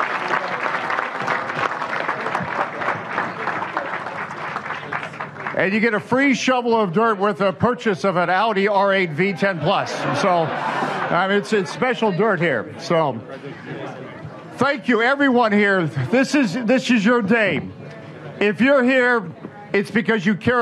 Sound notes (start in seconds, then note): 5.0 applause